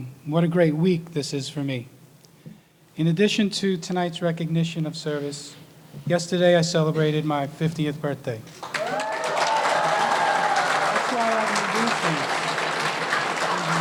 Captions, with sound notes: What a great week this is for me. In addition to tonight's recognition of service yesterday I celebrated my 50th birthday. (audience cheering and applauding) That's why I need these things.